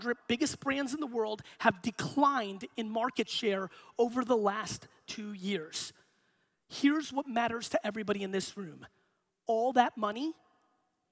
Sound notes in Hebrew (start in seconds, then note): none